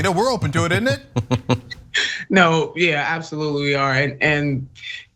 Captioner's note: laugh